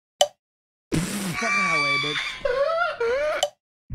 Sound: assorted puffer noises

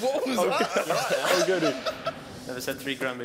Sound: laughing

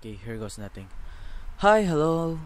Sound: breathes

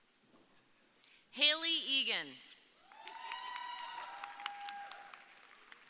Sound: audience cheering

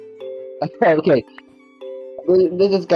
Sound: laughs

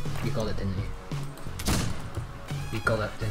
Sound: gunshot

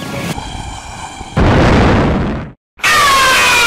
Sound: boom

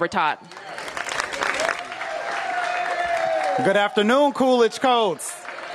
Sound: applause

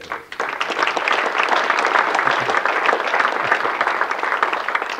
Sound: audience clapping

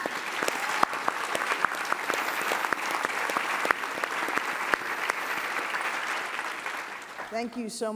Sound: applause

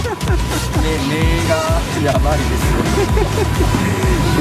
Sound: laughs

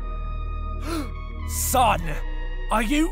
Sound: gasp

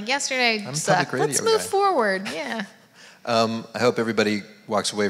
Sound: mumbles

